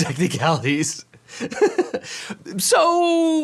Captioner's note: he laughs